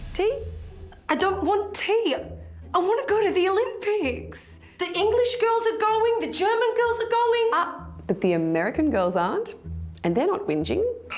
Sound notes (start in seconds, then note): none